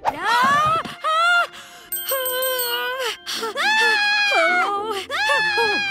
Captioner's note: bell dinging; screaming